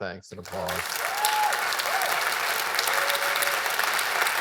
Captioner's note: audience applauds